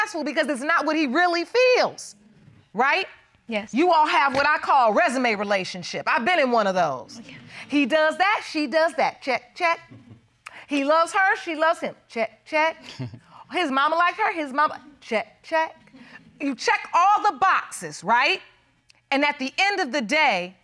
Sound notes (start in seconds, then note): 12.8 chuckles